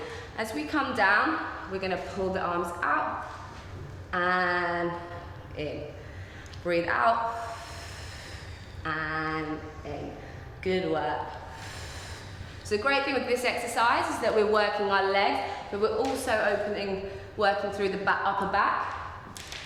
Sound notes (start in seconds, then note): 7.2 breathing out; 11.4 breathing noises